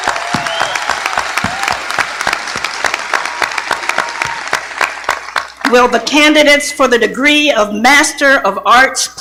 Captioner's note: appaluse